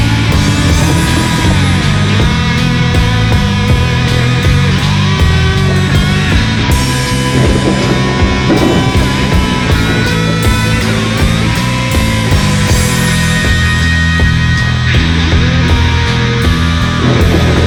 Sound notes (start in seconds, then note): 0.2 distant thunder; 7.3 distant thunder and rain